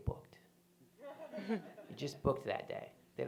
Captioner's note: laughter